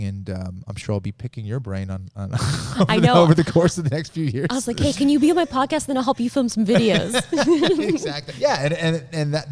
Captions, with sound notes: and I'm sure I'll be picking your brain over the course of the next few years. - I was like, hey, can you be on my podcast then I'll help you film some videos? (all laughing) - Exactly, yeah.